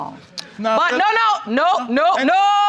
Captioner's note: shouting